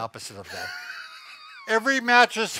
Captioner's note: laughing